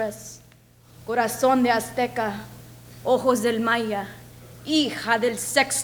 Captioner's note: speaks a foreign language